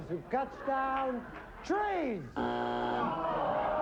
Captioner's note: buzzer